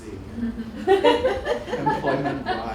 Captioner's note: laughter